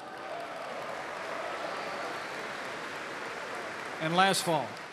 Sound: applause

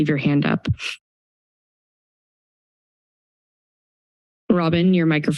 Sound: silence

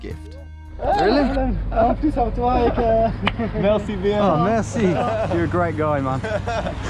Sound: speaking in a foreign language

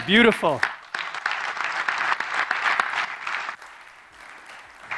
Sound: audience clapping

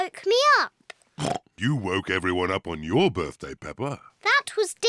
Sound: oinks

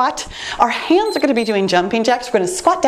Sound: timer beeps

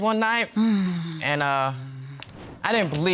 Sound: sighs

